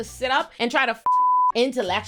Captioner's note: beep